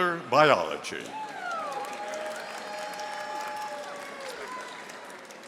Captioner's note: audience applauding